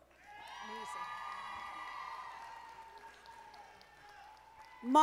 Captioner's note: audience applauding